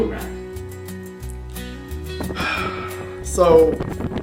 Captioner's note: interviewer sighs in frustration